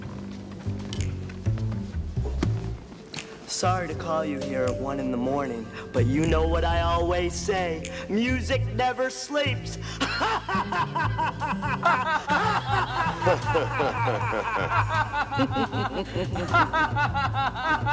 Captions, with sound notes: Sorry to call you here at one in the morning, but you know what I always say, music never sleeps. (Roger laughs) (laughter)